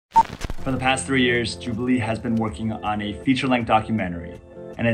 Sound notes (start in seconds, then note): 0.0 camera beeps